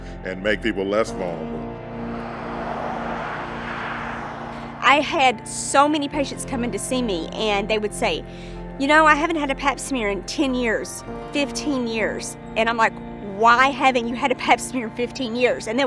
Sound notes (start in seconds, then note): 1.1 cars whooshing; 1.6 gentle music continues